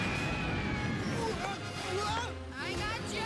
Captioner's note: all screaming